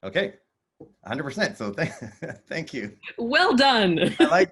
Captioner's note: chuckles